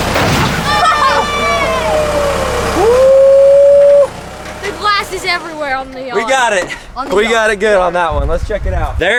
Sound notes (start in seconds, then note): 0.0 transformer crashes; 0.6 people cheering; 2.8 whoops